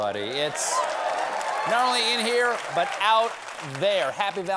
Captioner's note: cheers and applause